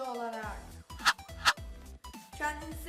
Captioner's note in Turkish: fışt